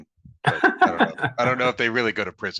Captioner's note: laughing